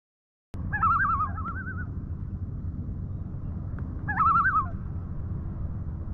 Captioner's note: loon tremolo